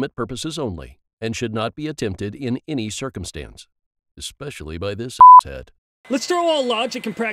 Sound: beep

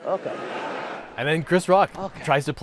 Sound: audience chuckles

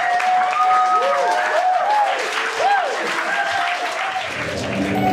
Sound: cheers, whoops

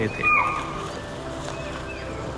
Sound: chital Deer Alarm Call

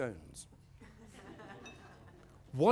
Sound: laughter

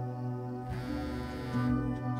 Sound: phone chimes

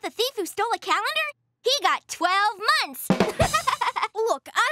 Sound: laughing

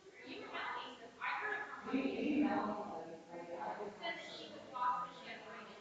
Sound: people chattering distantly continues

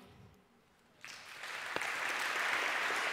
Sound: applause

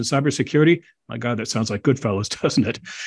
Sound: laugh

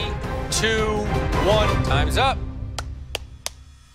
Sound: claps

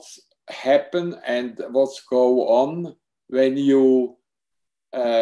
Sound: speaking in foreign language

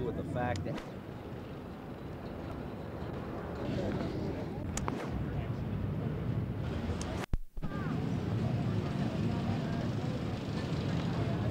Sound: ambient street noise

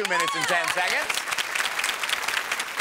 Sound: audience applauds

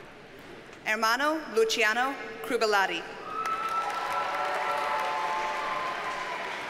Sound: audience cheers and applauds

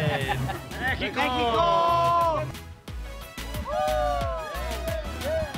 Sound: all cheering

